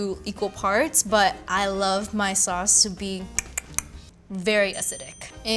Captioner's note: mouth clicking